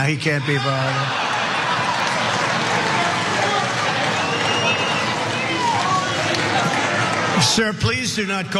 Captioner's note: laugh